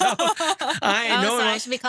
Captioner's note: laughs